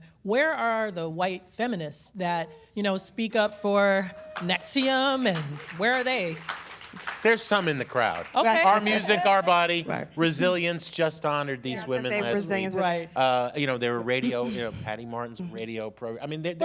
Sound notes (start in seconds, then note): 4.1 applause